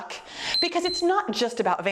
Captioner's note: timer beeps